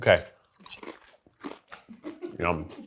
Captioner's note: chips crunching